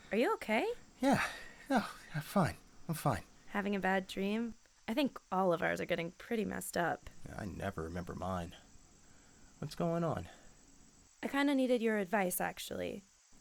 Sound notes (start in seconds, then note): 1.0 catching his breath